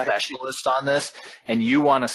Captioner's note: laughing